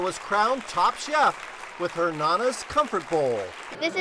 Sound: applause

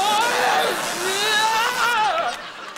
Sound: screaming

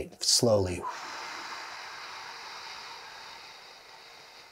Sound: exhaling slowly

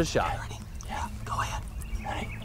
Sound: whispering

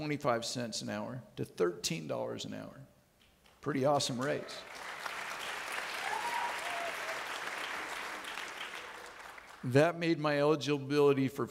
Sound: audience clapping

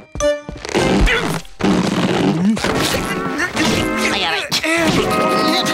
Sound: grunting

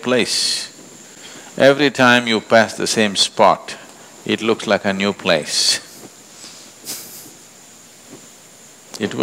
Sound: laughs

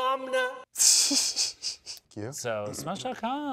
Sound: laughs

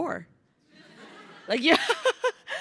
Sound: crowd laughing; laughs

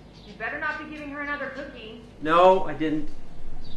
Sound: mom calls from other room

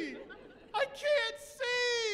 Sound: chuckling

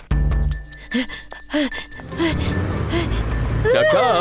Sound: Choco chews angrily; Choco breathes heavily

